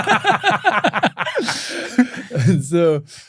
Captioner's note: laughter